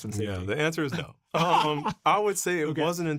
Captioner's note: chuckling